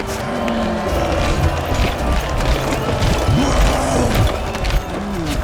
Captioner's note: crowd cheering; cyclops roars